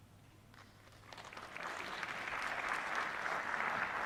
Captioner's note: applause